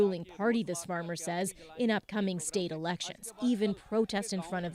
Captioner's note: speaking Foreign Language